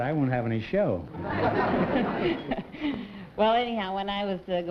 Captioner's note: laughter